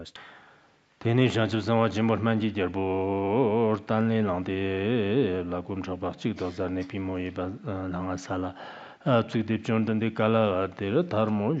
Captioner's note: giving oral transmission in Tibetan